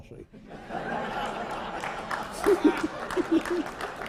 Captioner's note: laughter